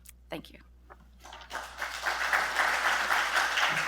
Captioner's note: applause